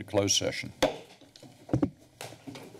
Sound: bangs gavel

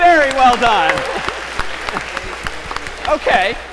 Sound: applause

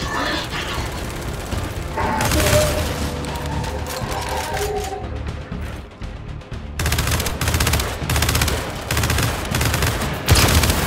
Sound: gunfire

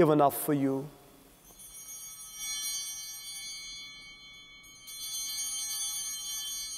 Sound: chimes ringing

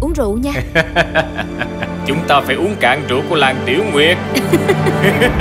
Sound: laughing

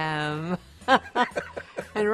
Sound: both laughing

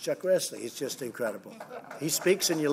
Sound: laughter

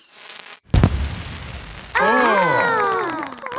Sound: exclamations

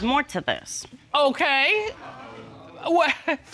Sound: chuckles

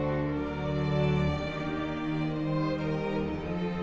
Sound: none

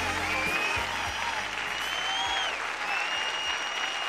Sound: audience cheers

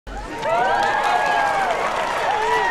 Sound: cheering, applause

